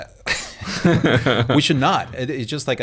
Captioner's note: they laugh